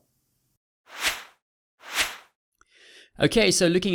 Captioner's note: logo whooshes